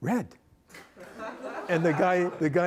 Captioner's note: laughter